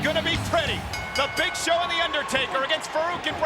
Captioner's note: bell rings